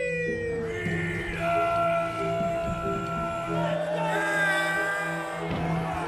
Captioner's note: crowd shouting